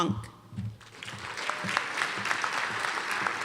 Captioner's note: applause